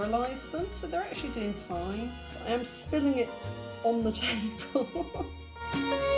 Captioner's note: laughing